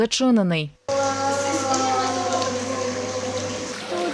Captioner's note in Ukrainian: Плюскіт води. Голоси дітей